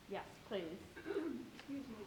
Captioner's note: clearing throat